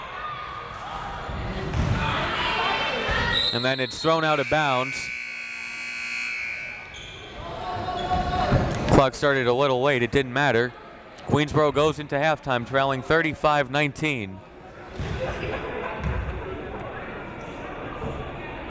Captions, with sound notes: (whistle tweeting) And then it's thrown out of bounds. (buzzer ringing) Clock started a little late. It didn't matter. Queensborough goes into half time trailing 35-19. (crowd members talking)